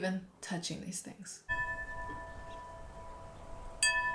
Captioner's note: wind chimes